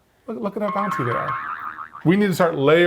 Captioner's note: spring sound effect